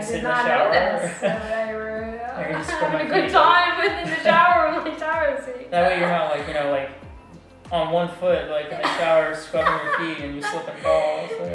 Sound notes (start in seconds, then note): 5.3 laughs